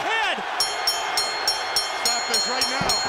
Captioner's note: bell ringing